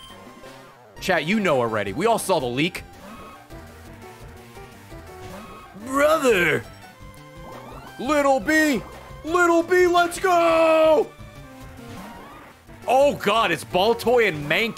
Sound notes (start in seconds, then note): none